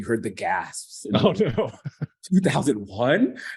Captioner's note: chuckling